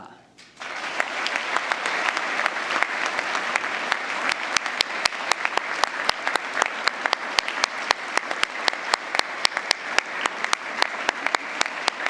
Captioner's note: applause